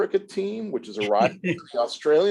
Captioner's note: laughs